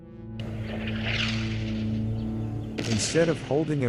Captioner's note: explosions booming